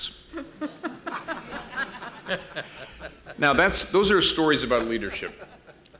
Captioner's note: laughter